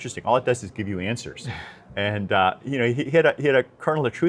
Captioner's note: laughs